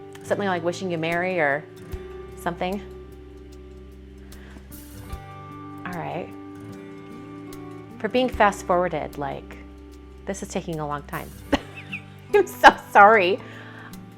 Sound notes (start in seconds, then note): 11.5 laughs